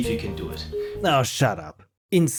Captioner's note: narrating